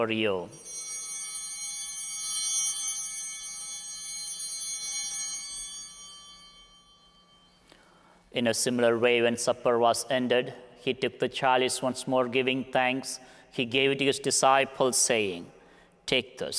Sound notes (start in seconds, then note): 0.5 bell ringing; 3.8 bell continues ringing